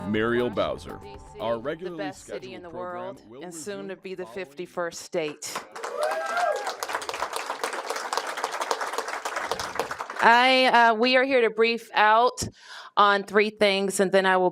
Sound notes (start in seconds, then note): 8.6 applause